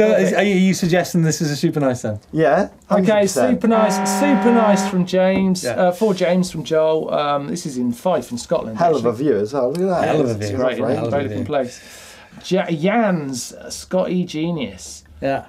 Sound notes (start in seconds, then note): 3.6 horn honking